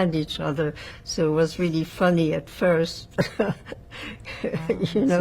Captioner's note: laughing